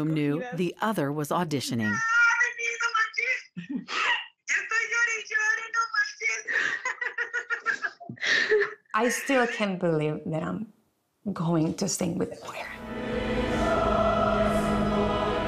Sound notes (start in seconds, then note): 1.9 speaks Spanish; 12.6 choir singing